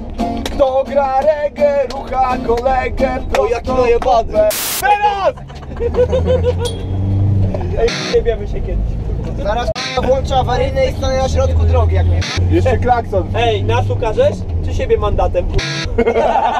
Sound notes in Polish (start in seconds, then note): 5.4 Dźwięk 25 tysięcy obrotów